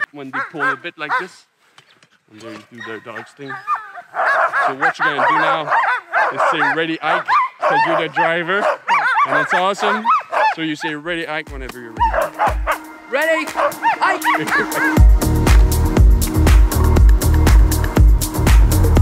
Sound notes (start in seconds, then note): 3.8 dogs barking; 13.8 laughing; 15.2 upbeat electronic music